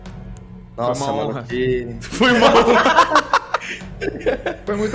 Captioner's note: laughs